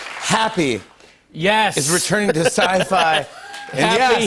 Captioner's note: cheers and applause